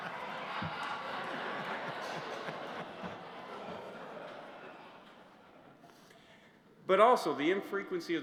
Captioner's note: laughter